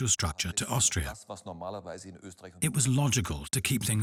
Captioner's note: speaks in foreign language